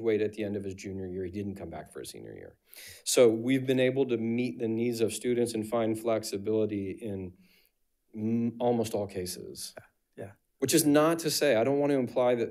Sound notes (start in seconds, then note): none